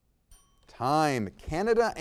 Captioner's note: bell dings